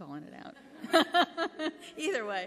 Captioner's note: laughter